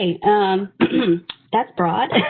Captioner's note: clearing throat; laughing